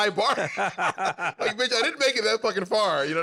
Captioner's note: laughter